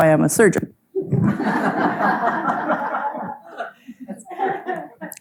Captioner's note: audience laughing